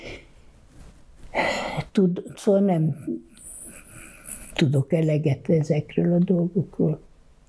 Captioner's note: sighing